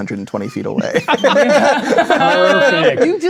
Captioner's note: players laughing